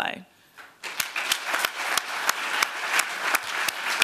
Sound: applause

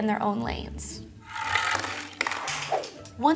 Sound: toy skateboards dropping

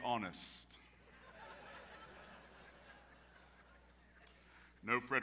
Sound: audience laughs

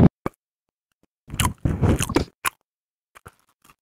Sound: smacks lips

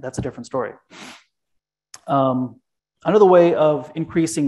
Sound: sniffles

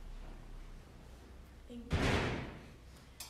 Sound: loud bang

